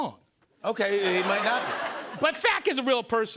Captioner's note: laughter